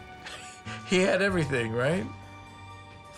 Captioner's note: laughs